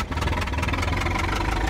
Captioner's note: engine chugging